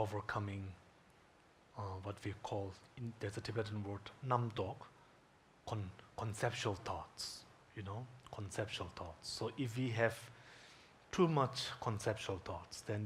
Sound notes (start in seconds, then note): 4.4 speaking in Tibetan language